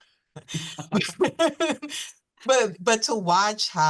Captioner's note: laughter